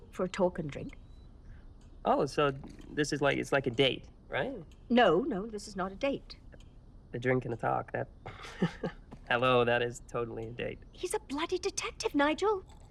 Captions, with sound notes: - For a talk and a drink. - Oh so this is like a date, right? - No, no this is not a date. - A drink and a talk. (laughs) Hello, that is totally a date. - He's a bloody detective, Nigel.